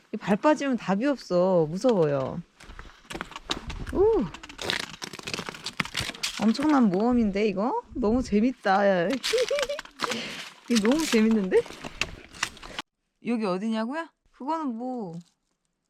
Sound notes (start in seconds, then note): 9.1 laughs